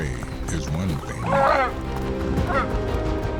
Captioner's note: squawking